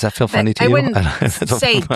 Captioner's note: laugh